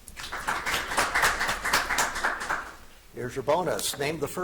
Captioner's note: audience applauding